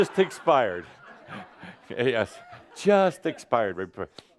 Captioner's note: laughter